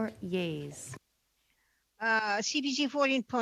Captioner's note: speaking French